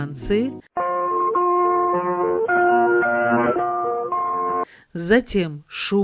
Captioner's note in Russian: звучит позывной сигнал радио, отрывок